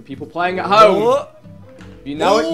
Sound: group oohing

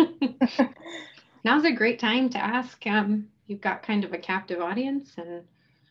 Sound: laughs and chuckles

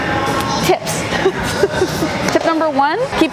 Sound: laughs

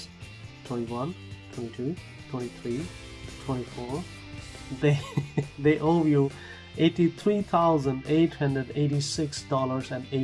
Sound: chuckle

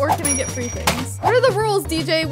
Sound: coins clicking

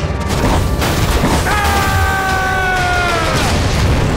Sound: screaming

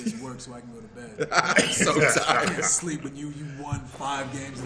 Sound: laugh

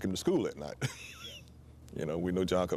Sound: laughs

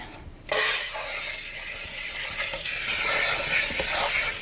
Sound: water splashing

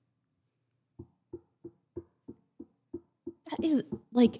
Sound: knocking

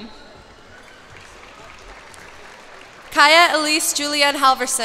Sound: cheers and applause

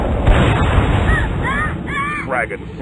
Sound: screaming

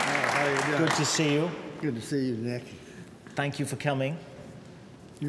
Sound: applause

